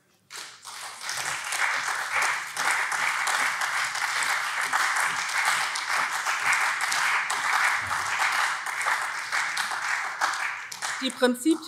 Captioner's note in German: Beifall SPD und vereinzelt CDU